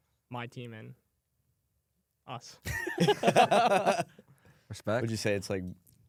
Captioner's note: laughs